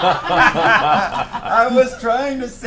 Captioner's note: all laugh